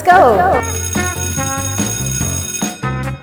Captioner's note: school bell rings